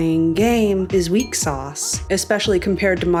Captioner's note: glass ding